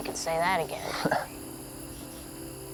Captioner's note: chuckles